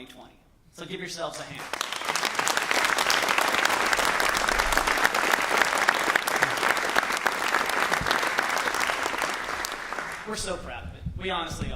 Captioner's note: applause